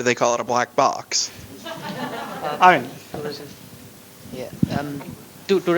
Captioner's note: laughter